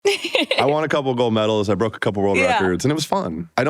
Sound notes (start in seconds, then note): 0.0 laughter